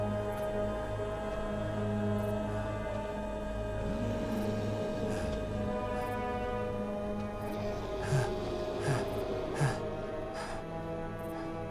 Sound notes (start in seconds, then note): 8.7 Ryder huffing